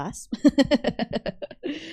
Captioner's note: laughs